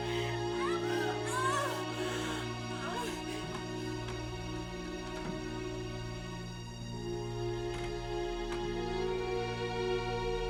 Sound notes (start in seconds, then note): 0.0 moaning; 3.3 soft dramatic music